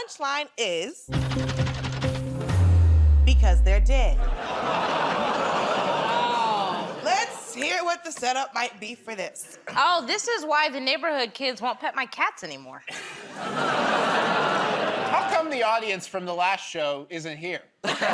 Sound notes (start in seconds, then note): 4.3 laughter; 13.5 laughter, groaning